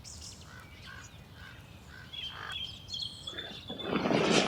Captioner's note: bird squawking